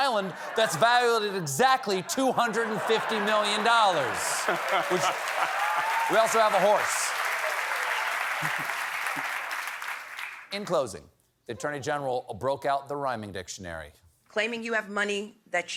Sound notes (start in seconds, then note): 12.6 applause